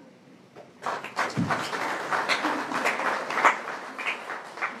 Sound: applause

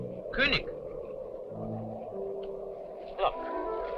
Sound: speaking in a foreign language

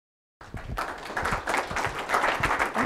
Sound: applause

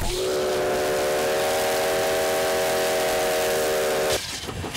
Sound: train whistle blowing

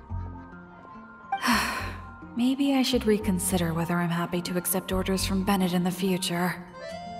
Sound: sigh

